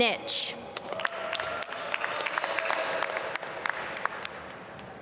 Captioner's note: applause